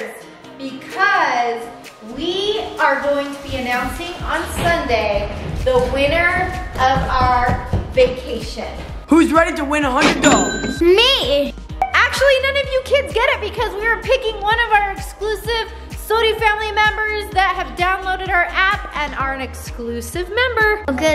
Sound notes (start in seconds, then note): none